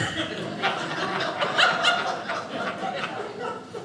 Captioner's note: audience laughing